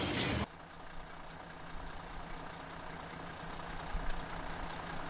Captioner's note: engine sound